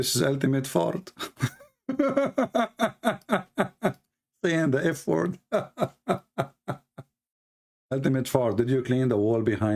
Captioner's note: Ketawa